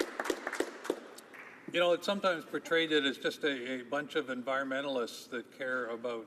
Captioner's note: some applause